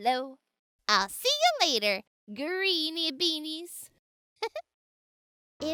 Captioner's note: laughs